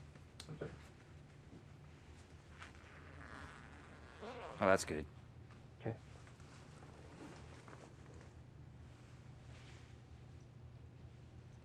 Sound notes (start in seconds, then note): 2.8 bag unzipping